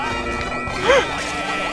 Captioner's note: gasp